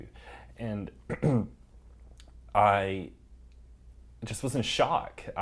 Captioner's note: cough